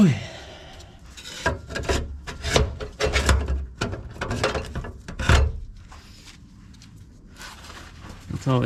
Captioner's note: metal clanking